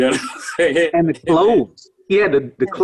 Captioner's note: laughs